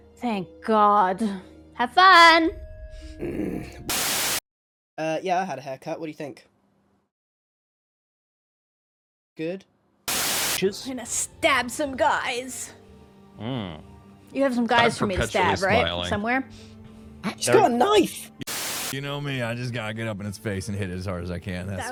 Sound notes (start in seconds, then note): 3.1 grumbles